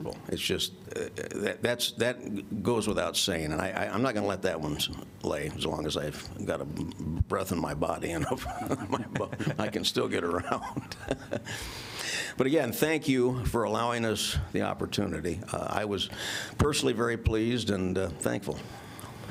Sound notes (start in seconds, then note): 8.1 laughter